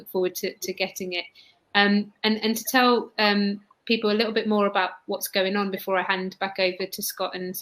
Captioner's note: erm